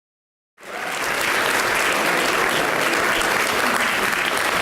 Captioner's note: audience applauds